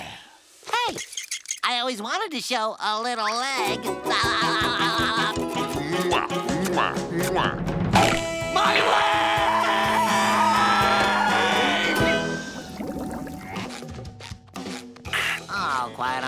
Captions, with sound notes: Hey, I always wanted to show a little leg. [laughing] [kissing] My le-e-e-eg! the way I quiet on the right